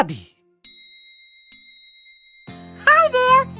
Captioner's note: dinging